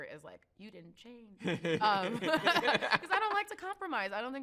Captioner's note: both laugh